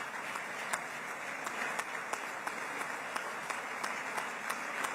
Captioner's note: applause